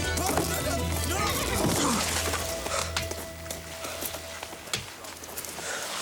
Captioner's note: thudding